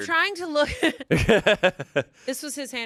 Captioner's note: everyone laughs